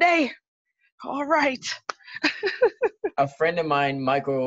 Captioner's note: laughs